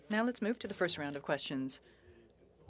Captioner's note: speaking French